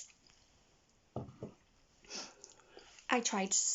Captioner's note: tea cup bangs softly on the desk